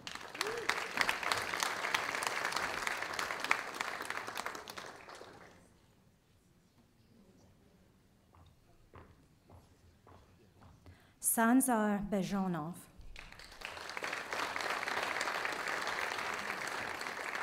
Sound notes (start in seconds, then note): 0.0 audience applauding; 13.1 audience applauding